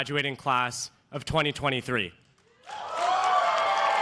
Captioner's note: cheers and applause